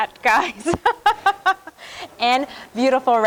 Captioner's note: laughs